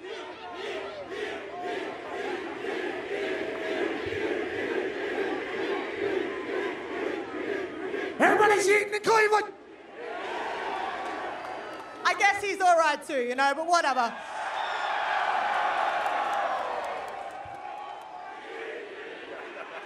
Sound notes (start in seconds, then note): 2.9 cheering